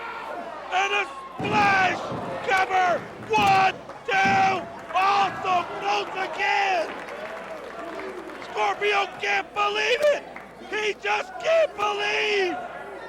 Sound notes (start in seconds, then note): 1.7 crowd cheering; 3.2 crowd chatter